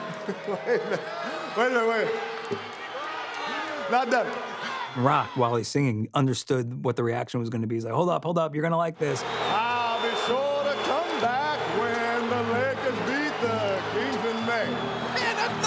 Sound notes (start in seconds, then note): 0.0 chuckling